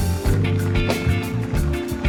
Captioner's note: applause